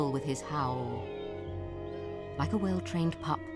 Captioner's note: howling